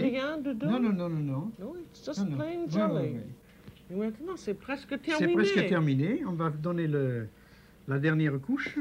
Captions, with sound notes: No, no, no, no, no. -No, it's just plain jelly. [ Both conversing in French ]